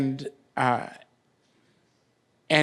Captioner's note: none